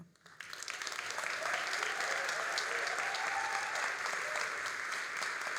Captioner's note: all applauding and cheering